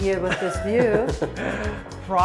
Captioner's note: chuckling